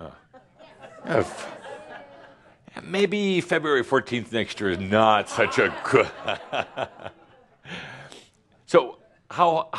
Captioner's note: Adamus laughs